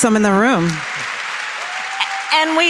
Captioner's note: applause